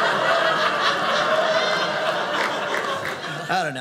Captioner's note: audience laughing